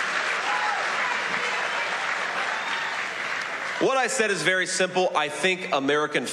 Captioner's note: cheers and applause